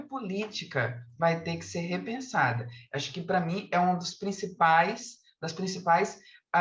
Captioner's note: continues speaking in Portuguese